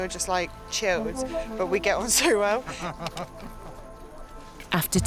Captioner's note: laughs